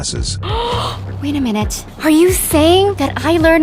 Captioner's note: gasps